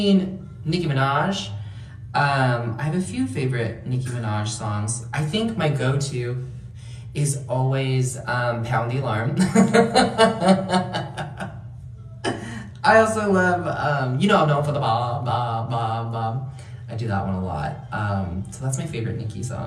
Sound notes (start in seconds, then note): 9.4 laughter